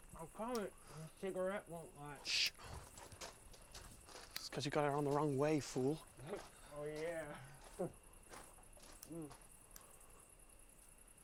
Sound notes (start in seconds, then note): 6.9 chuckles woozily